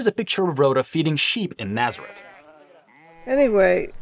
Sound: sheep bleating

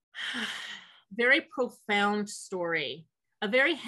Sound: sighs

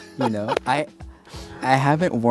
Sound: laughing

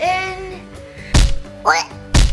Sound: shrieks; smashing sounds

